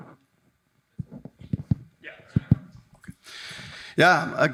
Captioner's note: mic thumping